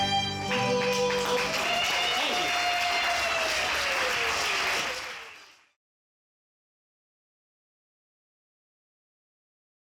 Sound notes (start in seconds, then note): 2.9 audience applauds; 2.9 audience cheers